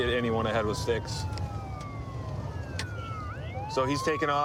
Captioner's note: sirens wailing